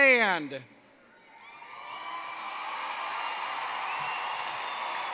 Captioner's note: cheering, applause